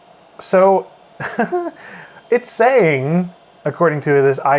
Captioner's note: laughs